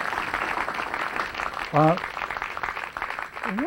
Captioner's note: applause